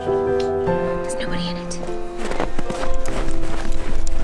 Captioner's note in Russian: шёпотом